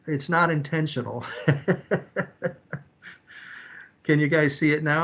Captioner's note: chuckles